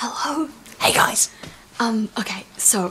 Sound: whispering

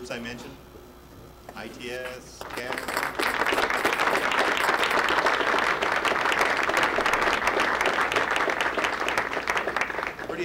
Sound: audience applause

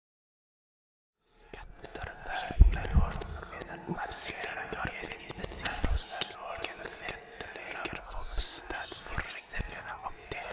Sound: demonic voice

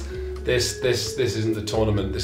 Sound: none

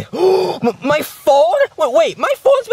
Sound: gasps

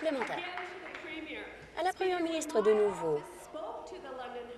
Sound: applause

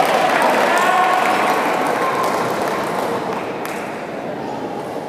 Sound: applause

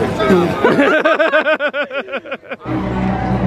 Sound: all laughing

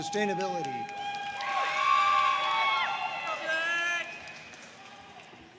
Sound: audience cheering and applauding

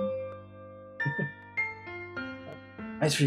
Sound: chuckles

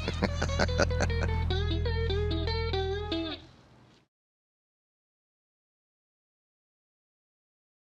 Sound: Danny chuckles

